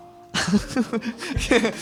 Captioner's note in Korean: 웃음